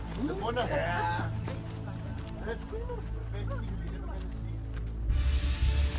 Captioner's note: all chattering